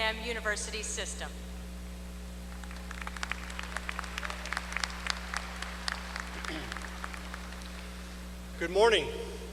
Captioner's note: applause